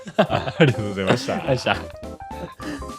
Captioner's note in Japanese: 笑い